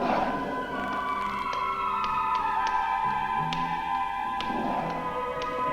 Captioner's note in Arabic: صوت خطوات قوية